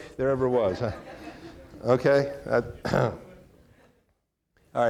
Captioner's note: audience laughing